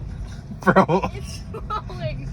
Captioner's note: seductively